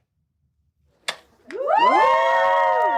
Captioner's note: cheering